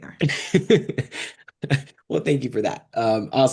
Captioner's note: laughs